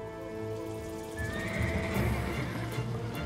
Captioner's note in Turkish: At kişneme sesi